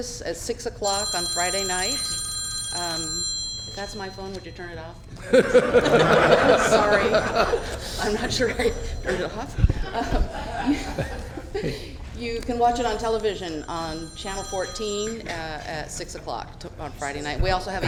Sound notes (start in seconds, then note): 12.1 laughter